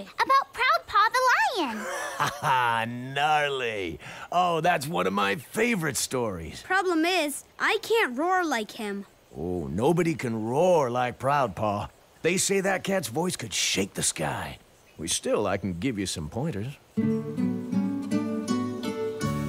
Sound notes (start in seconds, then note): 1.6 laughs